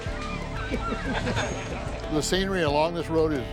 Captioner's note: crowd laughs